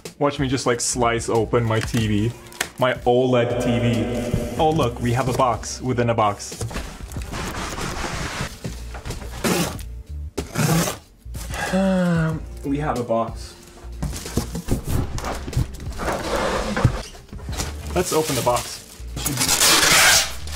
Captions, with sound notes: Watch me just, like, slice open my TV. My [echo] OLED TV. Oh look, we have a box within a box. [Sighs] We have a box. Let's open the box. [Tape ripping]